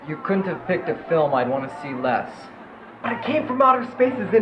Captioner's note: none